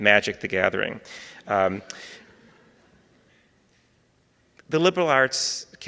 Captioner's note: audience laughing